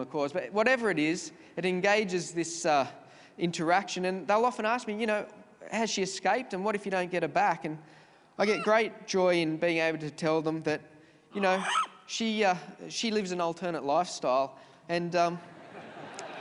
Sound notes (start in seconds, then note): 11.4 bird screeches; 15.5 audience laughs